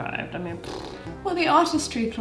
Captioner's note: scoffs